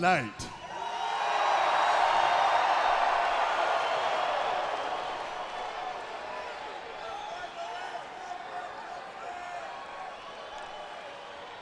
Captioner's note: crowd chatter